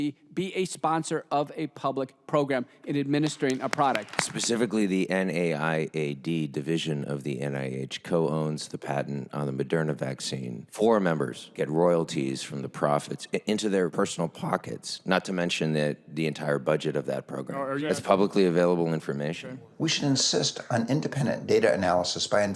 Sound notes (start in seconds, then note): 3.2 audience applauding